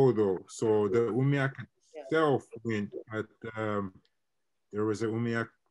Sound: internet distortion

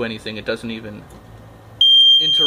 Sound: beep!

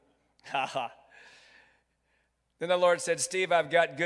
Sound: chuckles

